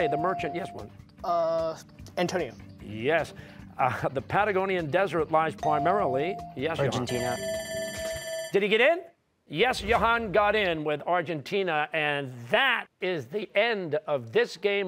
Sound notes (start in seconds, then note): 6.7 timer sounding